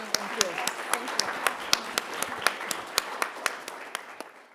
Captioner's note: audience applauding